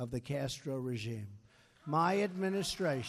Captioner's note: applause